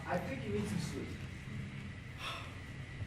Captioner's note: one final sigh